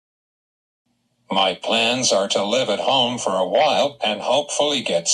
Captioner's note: voiceover